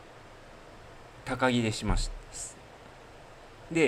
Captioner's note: none